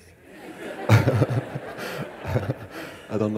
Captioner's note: laughter